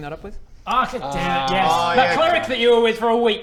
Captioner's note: noises of deep regret